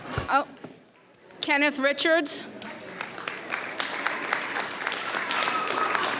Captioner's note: audience applauds